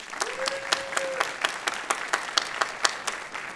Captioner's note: applause